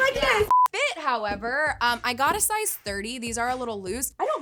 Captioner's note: electronic beeping